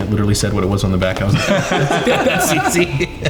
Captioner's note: everyone laughing